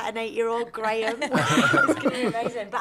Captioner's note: laughter